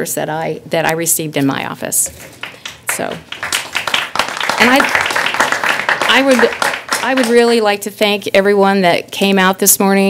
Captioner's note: applause